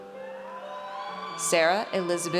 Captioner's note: audience cheers